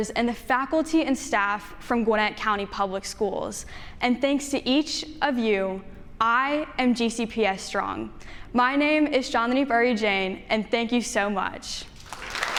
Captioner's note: audience claps and standing ovation